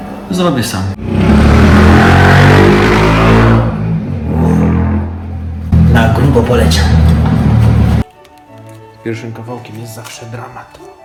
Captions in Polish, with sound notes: zrobię sam. [głośny dźwięk silnika] Na grubo poleciał. Z pierwszym kawałkiem jest zawsze dramat.